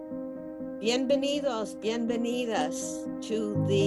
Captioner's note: speaking foreign language